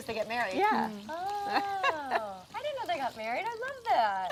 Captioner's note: laughter